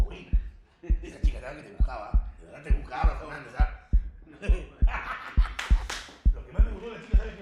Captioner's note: heartbeat sound